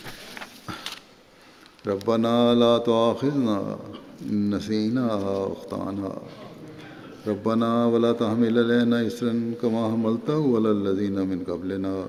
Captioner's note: Arabic